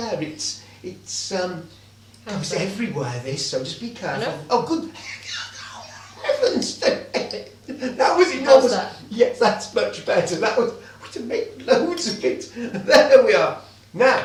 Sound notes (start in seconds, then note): 5.4 wheezes